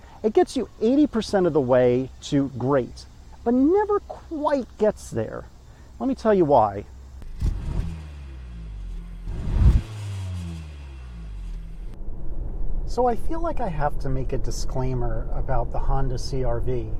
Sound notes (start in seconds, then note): 7.2 vroom